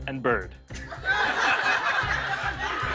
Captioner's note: laughter